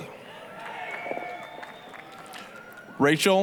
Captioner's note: applause, cheering